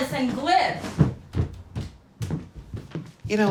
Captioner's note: footsteps thudding